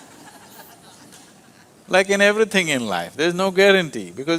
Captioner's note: laughter